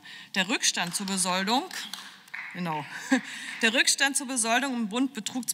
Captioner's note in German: Beifall